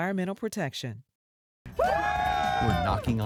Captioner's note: people screaming